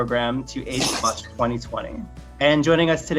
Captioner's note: audio distortion hisses